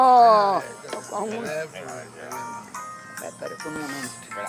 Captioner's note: ringing cell phone